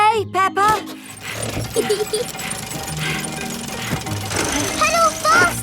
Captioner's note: mummy pig panting; peppa laughing